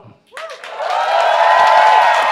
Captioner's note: applause